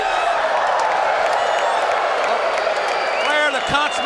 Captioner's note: crowd woos